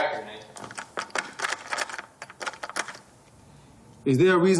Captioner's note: lock rattles